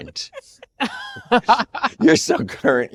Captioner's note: all laughing